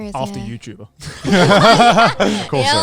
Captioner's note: everyone laughing